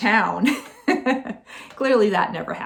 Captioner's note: laughing